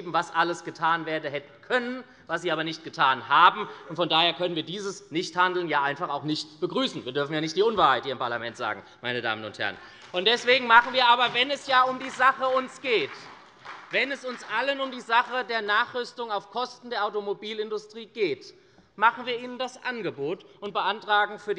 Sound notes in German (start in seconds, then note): 9.6 Beifall bei der SPD